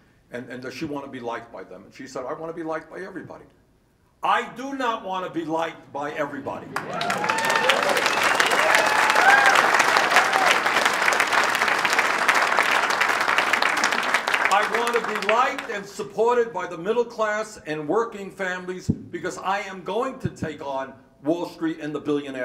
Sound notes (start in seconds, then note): 6.5 applause and cheers